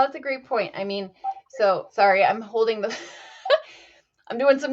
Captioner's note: chuckles